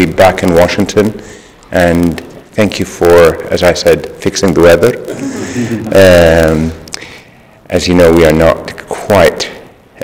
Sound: laughter

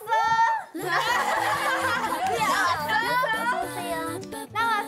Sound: laughing at the leader's aegyo

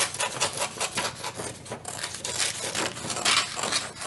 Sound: paper cutting

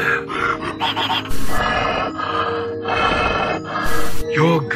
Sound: breathing

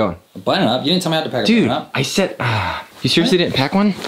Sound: sighs

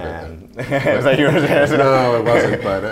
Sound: laughing

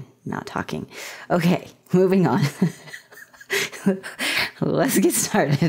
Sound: laughter

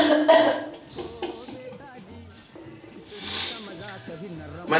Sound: laughing; scoffs

